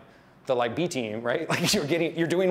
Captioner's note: laughs